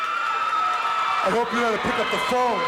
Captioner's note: crowd cheers